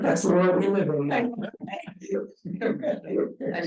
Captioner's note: speaking faintly; chuckles